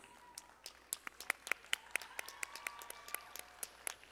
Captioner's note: audience applauding